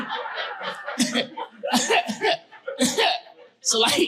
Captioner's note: chuckling